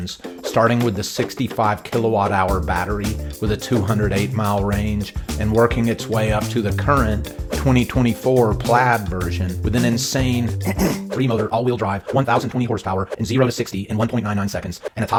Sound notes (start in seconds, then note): 10.6 clears throat